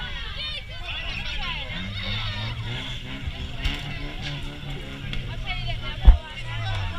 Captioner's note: vehicle engine start and rev